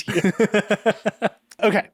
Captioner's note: laughing